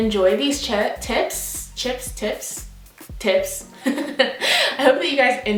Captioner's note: laughs